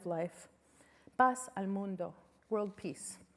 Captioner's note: spanish